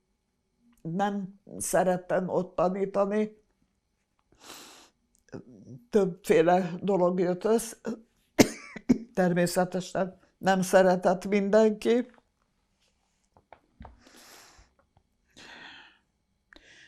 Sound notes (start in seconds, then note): 4.4 sniffing; 8.4 coughing